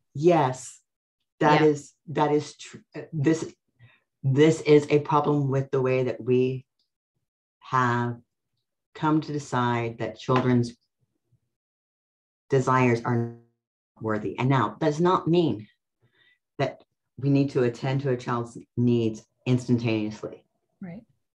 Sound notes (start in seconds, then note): 13.2 voice breaks up